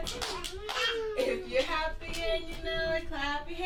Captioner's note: clapping